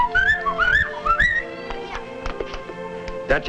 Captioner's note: whistling